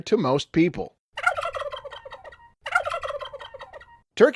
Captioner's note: gobble sound